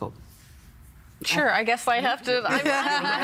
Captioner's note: all laughing